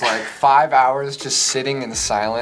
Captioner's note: laughing